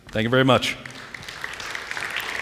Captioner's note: applause